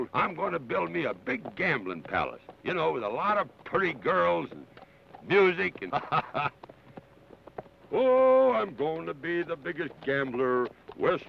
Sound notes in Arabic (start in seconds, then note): 5.7 يضحك